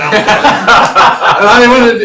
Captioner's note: laughter